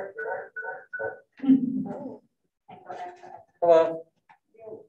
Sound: wiggly echoes sounds interfering with audio

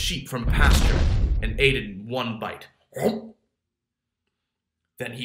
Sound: gulp

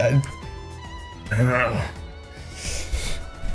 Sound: laughs; groans; sniffs

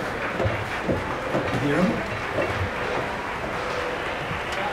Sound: applause, crowd commotion; applause, commotion continues

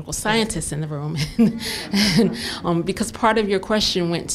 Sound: laughter

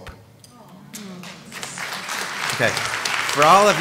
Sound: applause

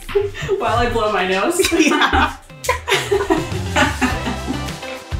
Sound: laughing; theme song music

